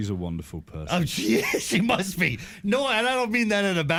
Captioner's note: laughing